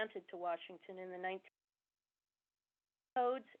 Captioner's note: audio cuts off